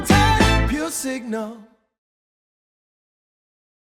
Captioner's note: no noise